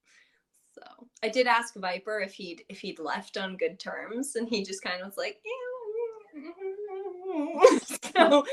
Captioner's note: noncommittal sounds